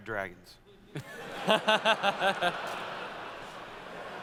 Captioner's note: laughter